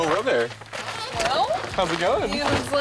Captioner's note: car door squeaks